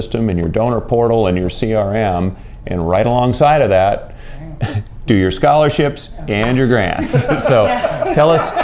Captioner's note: laughter